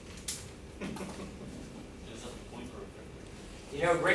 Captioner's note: chuckling